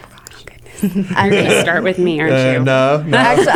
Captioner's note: laughter